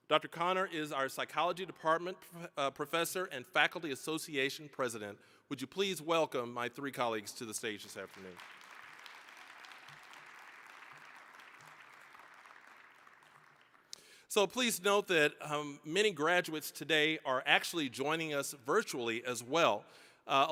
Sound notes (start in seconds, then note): 7.8 applause